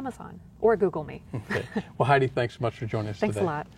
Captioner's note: laughter